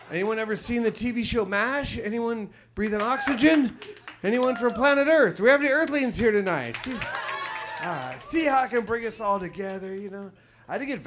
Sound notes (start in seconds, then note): 6.6 audience cheers